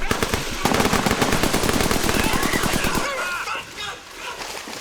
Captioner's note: shouting